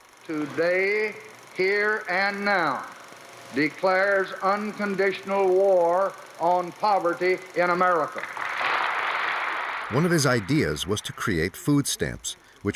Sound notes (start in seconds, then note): 9.8 crowd applauding